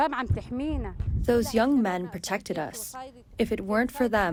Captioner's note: through translator